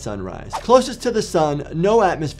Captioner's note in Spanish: transición silbante